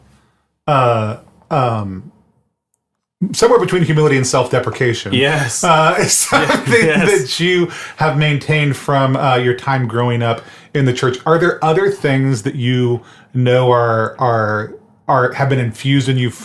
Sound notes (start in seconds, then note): 5.9 laughs